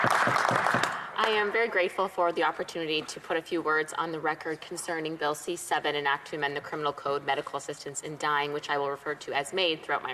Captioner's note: applause